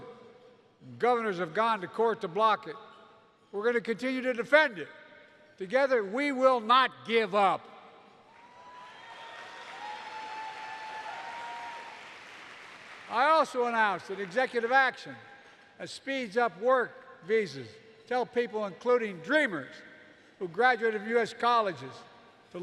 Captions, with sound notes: Governors have gone to court to block it. We're going to continue to defend it. Together, we will not give up. (Applause.) I also announced an executive action that speeds up work visas to help people, including DREAMers who graduated from U.S. colleges,